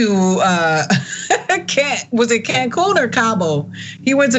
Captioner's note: laugh